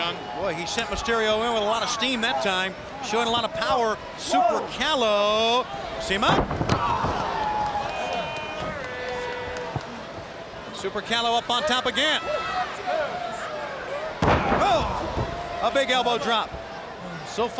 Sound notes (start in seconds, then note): 6.4 wrestlers thudding; 8.1 crowd vocalizing; 14.2 Super Calo thudding